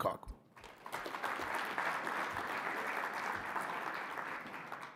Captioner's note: audience applauding